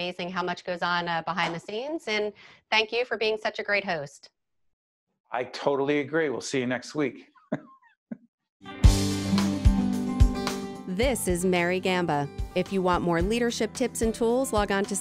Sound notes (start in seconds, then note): 7.4 laughing; 8.7 upbeat Music